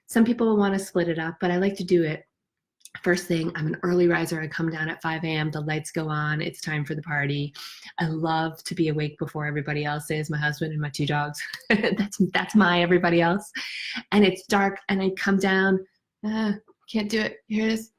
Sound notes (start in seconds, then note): 11.8 chuckles